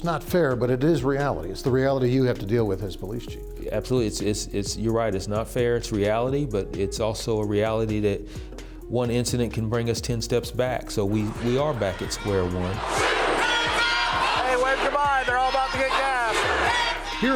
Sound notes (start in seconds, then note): 13.0 crowd chanting